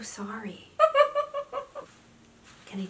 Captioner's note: laughs